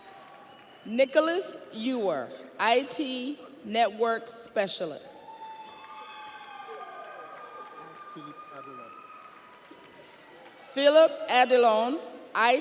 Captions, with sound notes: (audience applauds) (audience cheers) Nicholas Youer, IT Network Specialist. (audience applauds) (audience cheers)